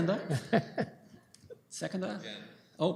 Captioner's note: laughter